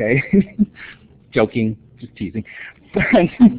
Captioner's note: laughter